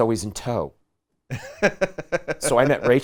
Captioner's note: laughing